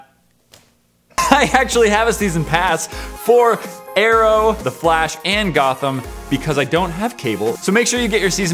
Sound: laughing

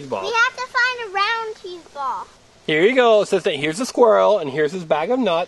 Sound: voiceover

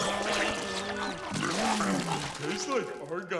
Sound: retching

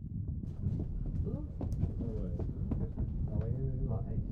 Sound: bus passengers talking faintly

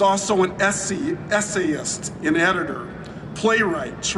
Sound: none

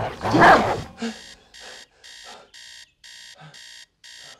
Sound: fierce barking; pants; beeping alarm clock

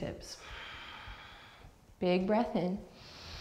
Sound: deep breath; deep breath

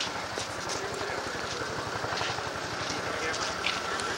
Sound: helicopter sound in background

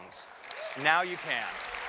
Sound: applause

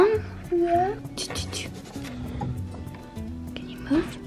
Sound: blowing air through teeth

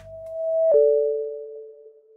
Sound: electronic chimes

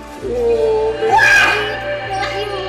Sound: witch screams

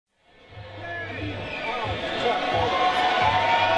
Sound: crowd cheering

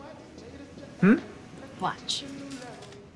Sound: blowing

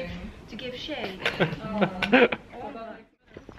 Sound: all laugh

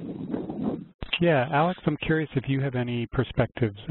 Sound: voiceover

